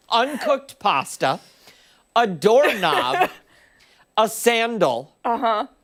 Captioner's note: laughter